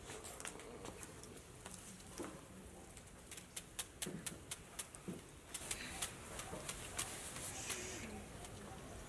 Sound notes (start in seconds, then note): 4.2 fan rustles